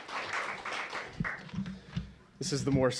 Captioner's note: applause